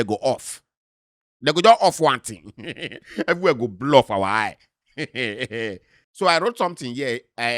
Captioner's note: chuckles